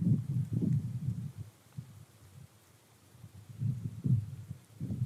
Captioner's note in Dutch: stilte